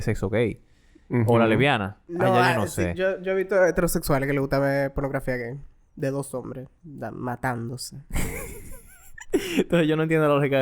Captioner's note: laughs